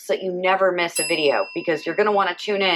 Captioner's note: bell dinging